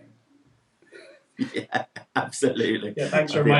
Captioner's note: laughs